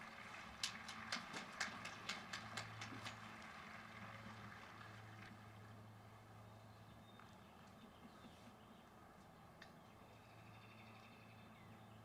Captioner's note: applause